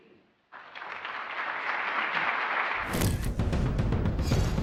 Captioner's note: applause